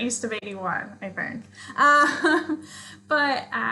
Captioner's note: laughs